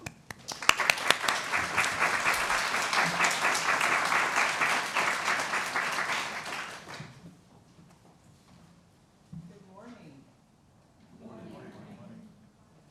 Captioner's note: applause